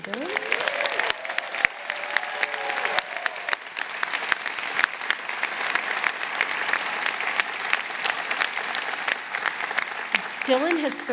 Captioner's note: applause